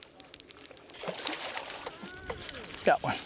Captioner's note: splashing